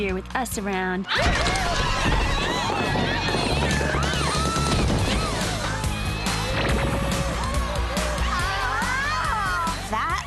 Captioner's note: screaming